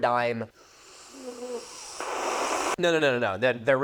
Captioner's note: sips aggressively